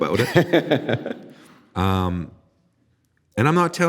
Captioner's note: laughing